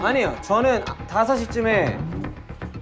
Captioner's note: Stammering